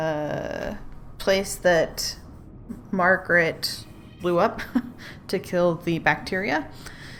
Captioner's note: laughs